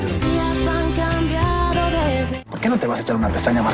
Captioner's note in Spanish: Grita